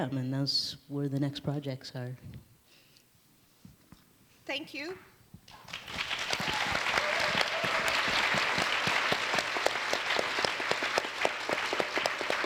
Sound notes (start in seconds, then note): 5.5 audience applauds